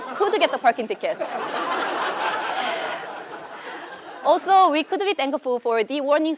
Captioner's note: laugh